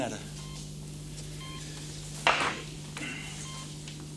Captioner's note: ECG beeping